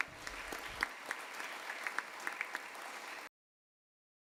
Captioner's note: applause